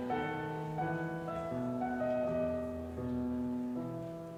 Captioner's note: none